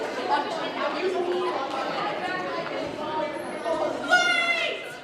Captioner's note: students chatter